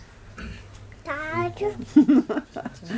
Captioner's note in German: Brabbeln, Lachen